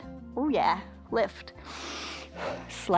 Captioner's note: inhales and exhales